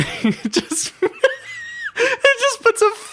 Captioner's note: laughing hard